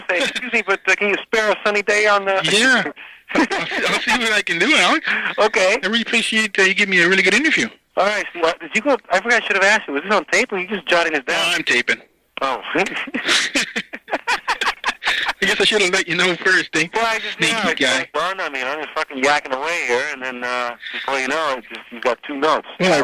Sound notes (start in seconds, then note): 3.3 both laughing; 12.5 laughing